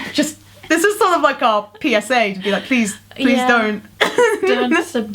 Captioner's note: laughs